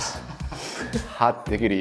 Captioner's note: laughing